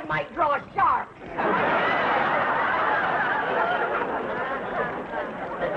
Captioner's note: audience laughing